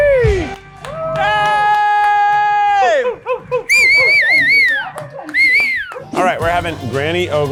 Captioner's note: whistling